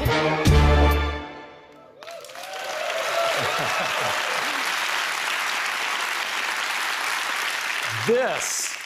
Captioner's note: applause